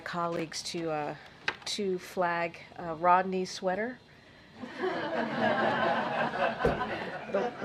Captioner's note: laughter